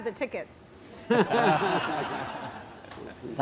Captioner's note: laughter